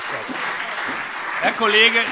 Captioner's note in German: Beifall SPD und Freie Demokraten